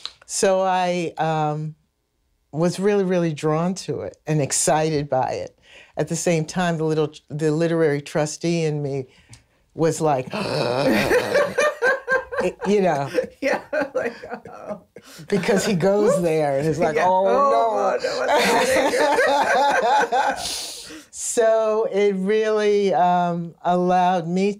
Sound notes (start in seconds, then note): 10.3 long inhale; 11.3 laughs; 18.1 laughter